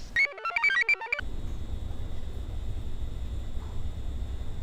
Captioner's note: device buzzes; computer chirps